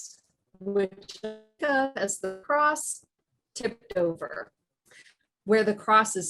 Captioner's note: audio distorts